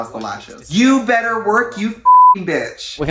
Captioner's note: beeps